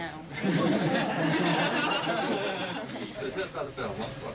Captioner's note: laughter